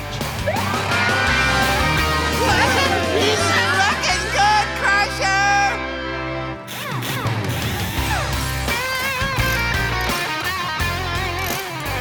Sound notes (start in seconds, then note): 0.7 siren wailing; 2.1 screaming; 6.4 impact wrench whirring; 8.8 wrench clicking